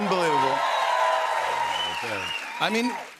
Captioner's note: cheers and applause